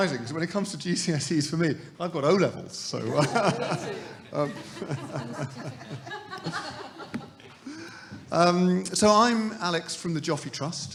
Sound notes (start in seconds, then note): 3.1 laughs; 4.6 audience laughing; 4.6 laughing